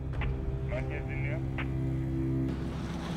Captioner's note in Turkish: Telsizden sesler gelir